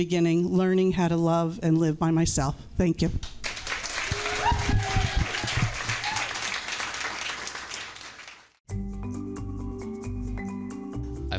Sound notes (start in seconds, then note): 3.4 crowd cheers and claps; 9.1 bright music